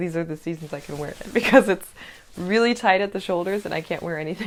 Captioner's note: laughter